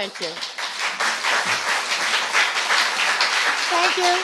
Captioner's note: applause